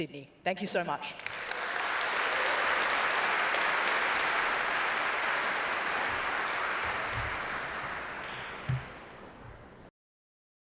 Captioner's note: applause